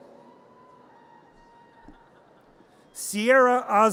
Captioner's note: audience cheers